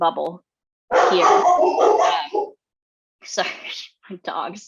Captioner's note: dogs barking